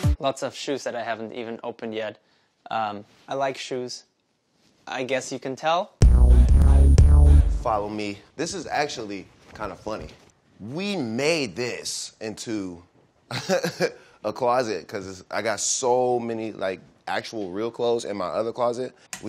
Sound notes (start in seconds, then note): 6.0 upbeat hip hop; 13.3 laughs